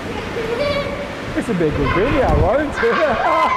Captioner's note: laughter